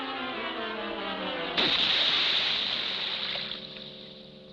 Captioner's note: splashing